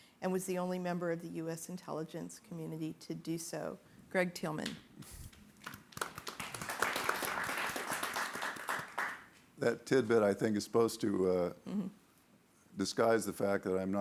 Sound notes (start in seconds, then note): 5.6 audience applauding